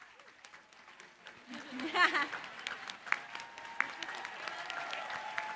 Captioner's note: applause; laughter